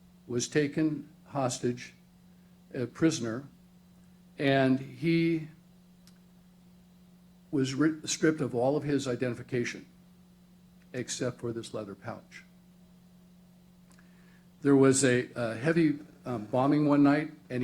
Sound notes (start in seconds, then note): none